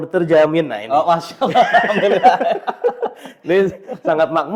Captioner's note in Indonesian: tertawa